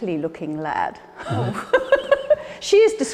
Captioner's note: Ruth laughing